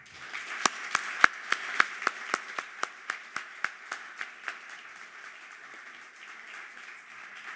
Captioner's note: applause